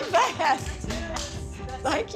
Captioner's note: group clapping